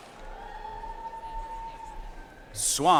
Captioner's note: audience cheering and applauding